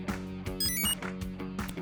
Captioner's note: enter chime